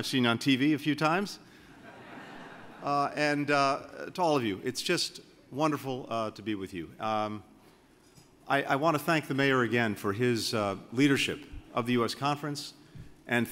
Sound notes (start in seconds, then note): 1.7 laughter